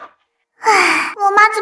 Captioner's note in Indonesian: Menghela napas